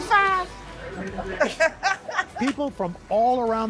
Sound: laughter

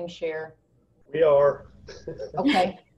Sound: laughs

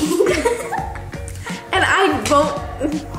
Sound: laughs

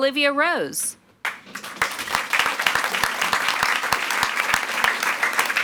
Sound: audience applauds

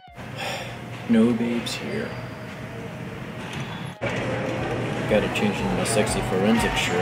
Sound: sigh

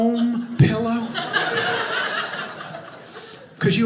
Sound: audience laughing

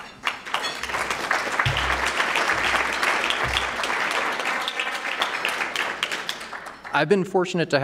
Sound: applause

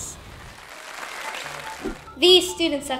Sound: clapping

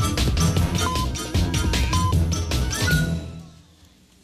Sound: electronic beeping

